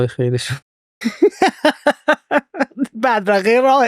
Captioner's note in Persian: خنده